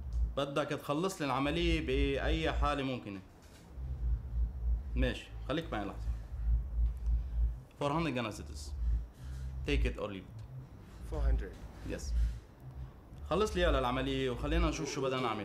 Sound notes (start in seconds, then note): 7.7 in English; 13.1 in Arabic